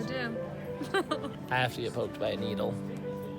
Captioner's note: laughs